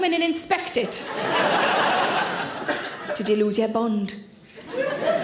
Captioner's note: audience laughing